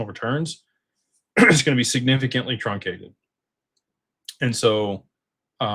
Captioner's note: clears throat